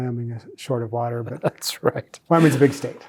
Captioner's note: chuckles